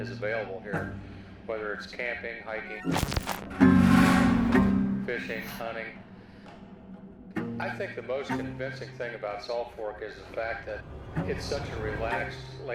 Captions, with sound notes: is available here, whether it's camping, hiking... (computer static bleeping) (tense music) Fishing, hunting. I think the most convincing thing about Salt Fork is the fact that it's such a relaxed,